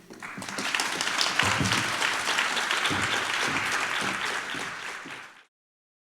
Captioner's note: applause